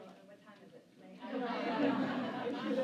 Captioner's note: laughter